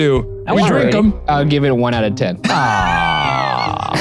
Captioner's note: laughs